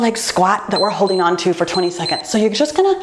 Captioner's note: timer beeps